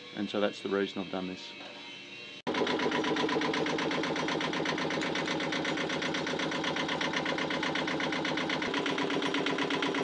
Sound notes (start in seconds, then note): 2.4 engine knocking